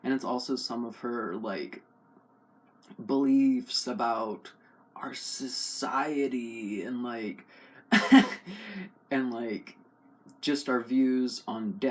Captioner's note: laugh